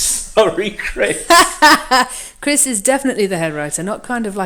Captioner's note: laughs